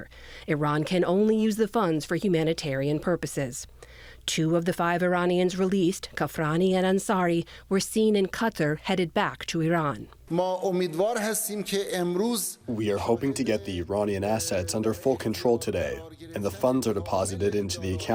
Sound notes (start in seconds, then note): 11.9 through translator